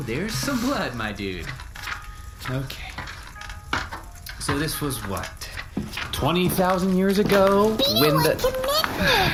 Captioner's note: flipping